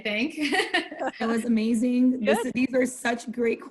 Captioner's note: laughter